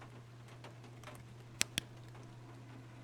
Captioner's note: flashlight Clicks Off